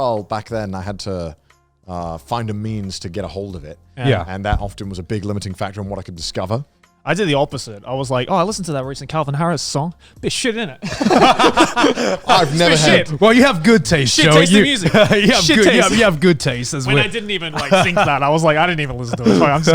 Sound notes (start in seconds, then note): 11.8 all laughing